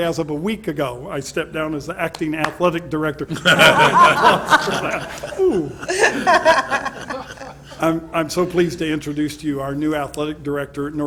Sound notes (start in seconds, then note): 2.1 one person starts clapping; 3.3 all chuckle